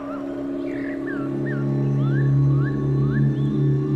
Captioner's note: birds chirping